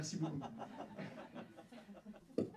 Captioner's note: laugh